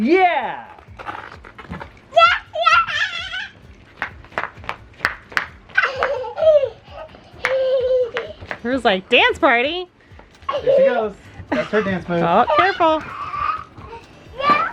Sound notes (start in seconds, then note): 4.4 feet stomping; 5.7 giggling